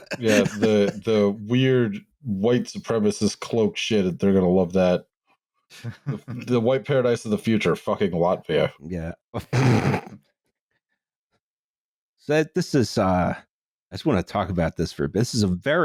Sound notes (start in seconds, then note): 0.0 laughs; 9.5 snort-laughs